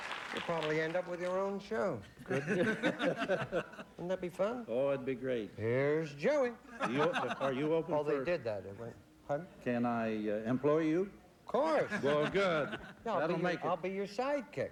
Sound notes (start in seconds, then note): 2.1 chuckles